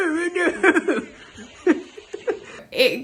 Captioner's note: laughs